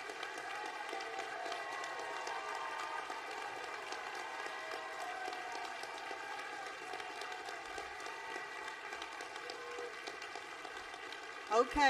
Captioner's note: applause